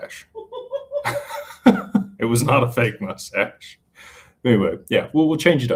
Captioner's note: laughter